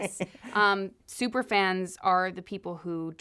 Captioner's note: laughter